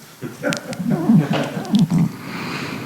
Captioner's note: laughter